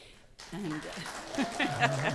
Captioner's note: audience applauding